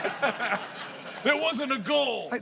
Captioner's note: laughter